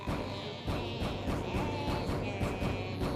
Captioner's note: banging